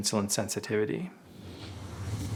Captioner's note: whooshing